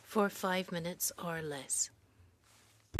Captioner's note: speaking French